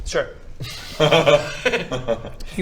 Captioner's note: laughs